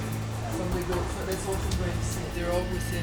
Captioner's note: indistinct chatter